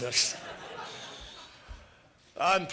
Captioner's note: laughter